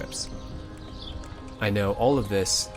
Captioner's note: birds chirping